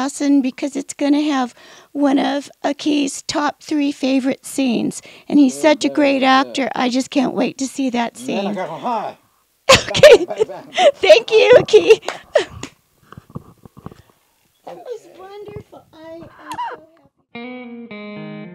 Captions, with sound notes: because it's gonna have one of Aki's top three favorite scenes. And he's such a great actor. I can't wait to see that scene. - Bang bang. (laughs) - Thank you Aki. That was wonderful.